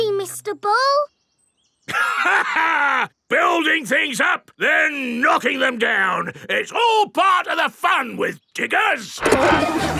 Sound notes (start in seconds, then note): 2.1 laughs